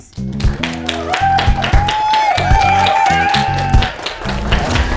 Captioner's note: audience applauding